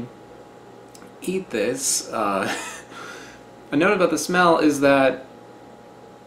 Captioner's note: wheezing laugh